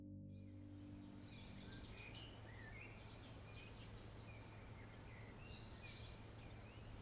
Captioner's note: birds chirping